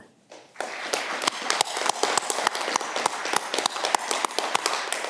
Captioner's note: audience clapping